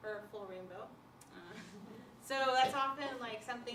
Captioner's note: laughter